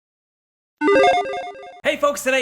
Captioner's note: logo beeps